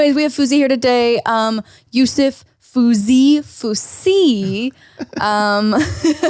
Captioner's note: laughs